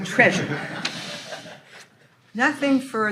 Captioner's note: all laughing